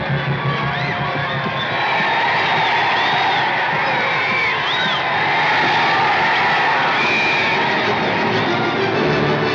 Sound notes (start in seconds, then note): 1.3 crowd cheering loudly; 6.7 whistle blows